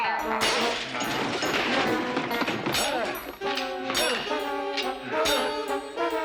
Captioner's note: chuckles; groans; swords clank